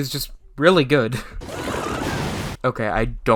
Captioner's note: Izuku screams